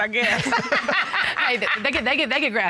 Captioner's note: both laugh